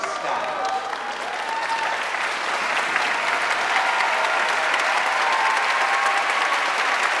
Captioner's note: audience cheering and applauding